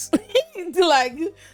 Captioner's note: laughs